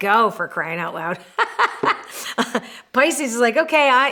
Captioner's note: laughs